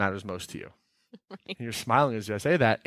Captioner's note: laughing